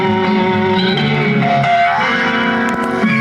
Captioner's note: boing